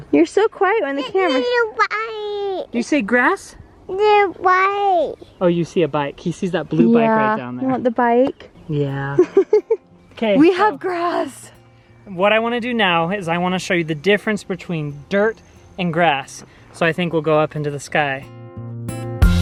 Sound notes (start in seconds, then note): 9.1 laughing